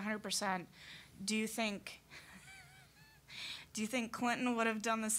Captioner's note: laughing